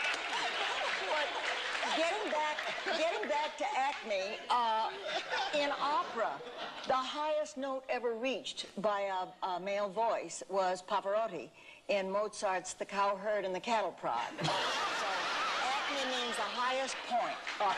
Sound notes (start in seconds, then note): 14.4 laughter